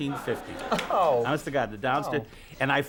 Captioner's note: audience laughs